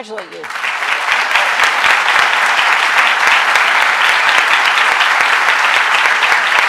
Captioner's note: applause